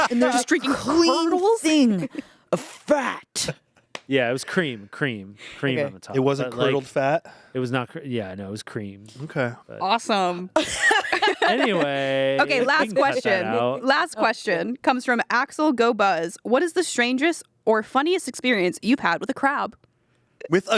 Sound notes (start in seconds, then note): 10.6 everyone laughs